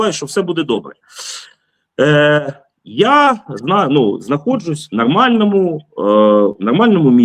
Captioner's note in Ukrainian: сопіння